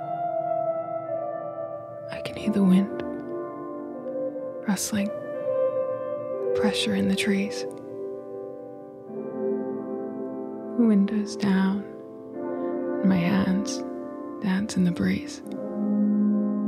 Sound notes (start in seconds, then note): none